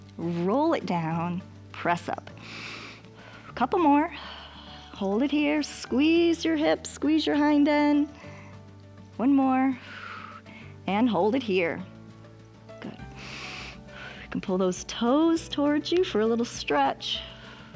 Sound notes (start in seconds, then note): 2.4 inhales and exhales; 9.8 exhales; 12.8 inhales and exhales